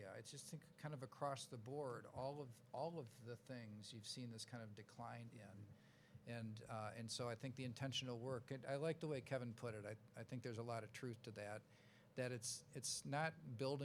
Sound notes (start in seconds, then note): none